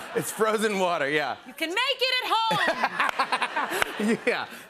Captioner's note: laughter